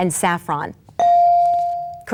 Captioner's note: bell dings